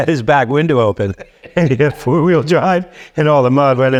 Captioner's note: laughing